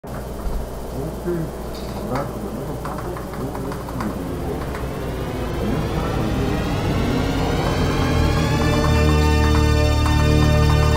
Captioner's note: Pop Ups OS statup sound